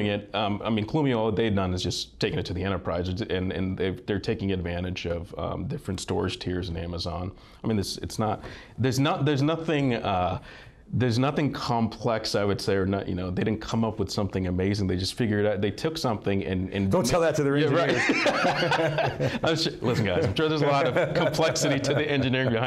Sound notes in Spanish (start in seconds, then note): 17.8 risas joviales